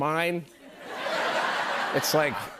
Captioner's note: laughter